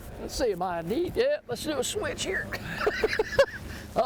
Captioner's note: laughs